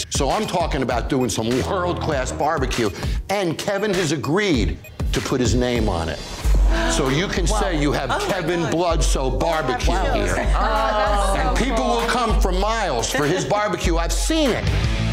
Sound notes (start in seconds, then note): 6.6 woman gasps; 10.6 family exclaims in awe